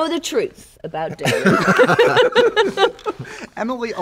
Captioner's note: laughter